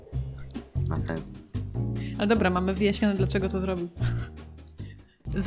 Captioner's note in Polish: śmiech